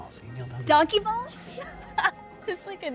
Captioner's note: laughs